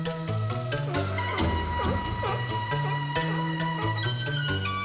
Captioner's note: seal barking